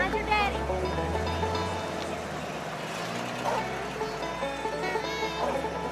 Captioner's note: people talking together